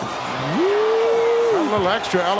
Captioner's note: audience cheering